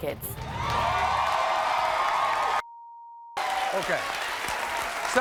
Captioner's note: audience cheers; beep